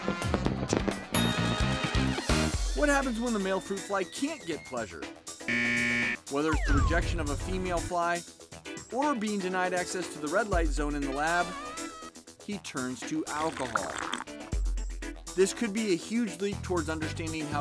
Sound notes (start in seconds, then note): 6.5 beep